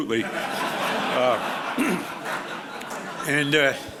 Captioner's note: audience laughs